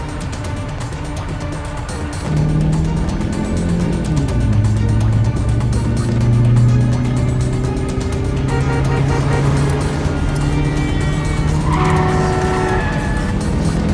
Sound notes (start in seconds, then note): 2.2 motor accelerating; 2.6 cars honk; 11.9 tires screeching